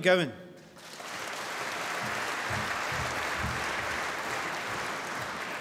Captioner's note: applause